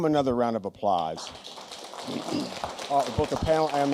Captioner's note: applause